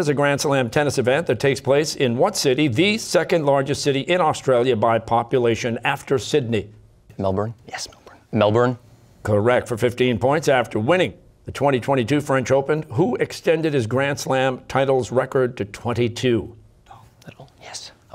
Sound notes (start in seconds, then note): 6.9 quietly; 16.2 whispering